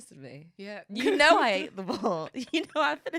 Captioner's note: laughing